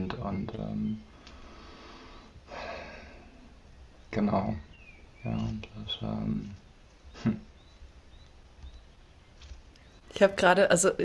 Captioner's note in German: seufzt